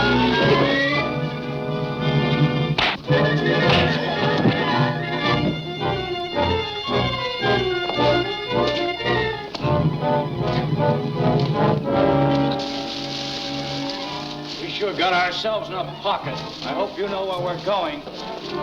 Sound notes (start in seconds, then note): 0.1 dramatic music; 2.8 punch sound; 4.6 dramatic music continues; 12.8 leaves rustling